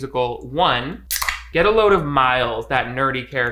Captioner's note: soda can popping